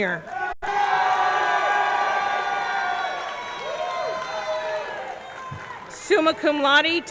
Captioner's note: audience cheering; audience clapping